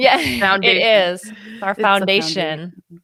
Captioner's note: laughs